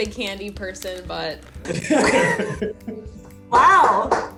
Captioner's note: laughter